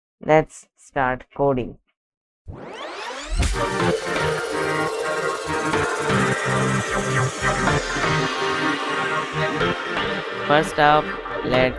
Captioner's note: beep